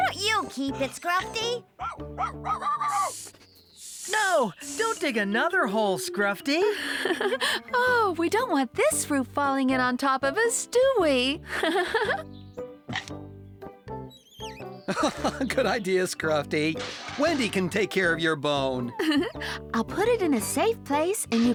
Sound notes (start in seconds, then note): 1.7 barking; 7.3 chuckling; 13.2 crunch!; 14.8 chuckling; 18.8 giggling